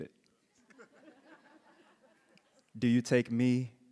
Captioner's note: panelists laughing